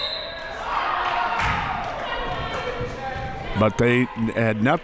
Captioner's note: clapping